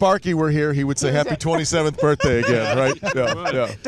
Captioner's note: laughter